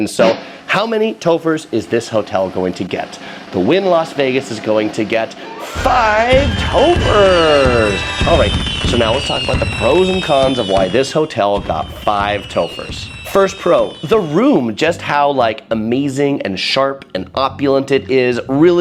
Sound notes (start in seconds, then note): 7.7 fireworks; 7.7 upbeat music